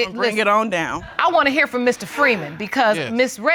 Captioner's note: sighs